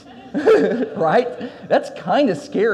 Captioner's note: audience laughs; laughs